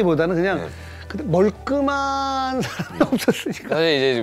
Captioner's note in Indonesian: bintang tertawa